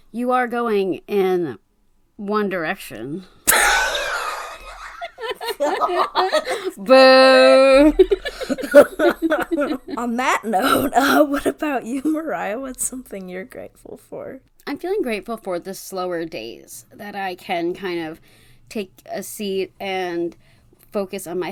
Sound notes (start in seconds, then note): 4.5 laugh